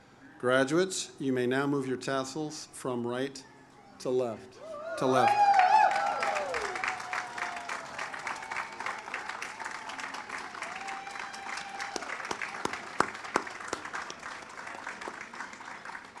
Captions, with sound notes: Graduates you may now move your tassels from right to left. (audience cheers) (audience applauds)